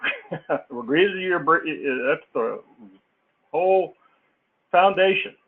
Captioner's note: laugh